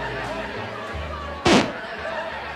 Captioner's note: needle scratches